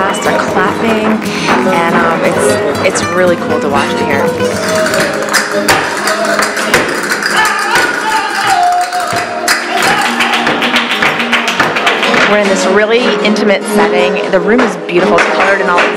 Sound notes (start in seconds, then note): 6.8 castanets; 10.2 clapping